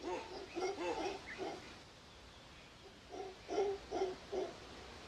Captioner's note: howler monkey